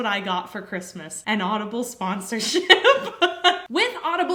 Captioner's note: laughs